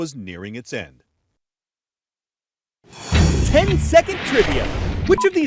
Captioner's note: voice-over